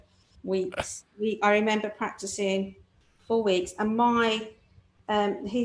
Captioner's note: chuckles